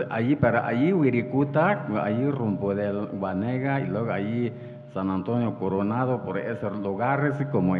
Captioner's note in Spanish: habla en wixárika